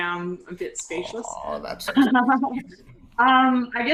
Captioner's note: laughter